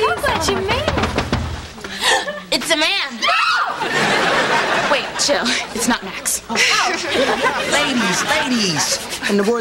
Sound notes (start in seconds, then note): 0.0 knock on door; 1.9 gasp